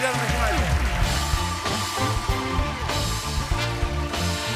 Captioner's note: cheers and applause